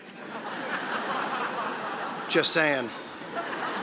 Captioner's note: audience laughing